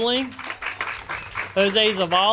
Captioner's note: audience applauds